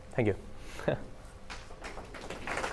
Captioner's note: applause